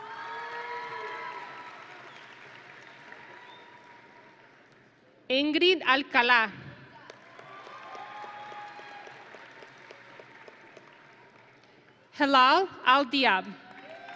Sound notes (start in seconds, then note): 0.0 audience and graduates cheering; 7.0 audience and graduates applauding